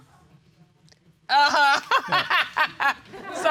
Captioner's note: laughs